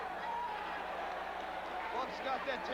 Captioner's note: crowd cheering